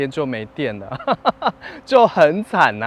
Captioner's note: laughs